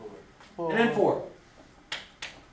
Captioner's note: voiceover